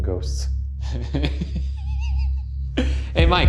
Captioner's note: laughing